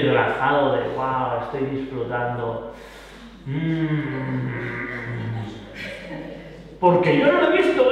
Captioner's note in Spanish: sonidos de placer